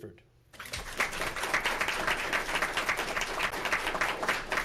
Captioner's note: audience clapping